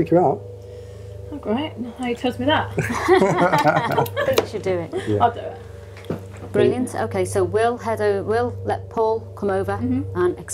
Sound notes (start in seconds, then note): 2.7 laughing